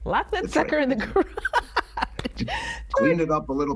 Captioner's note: laughing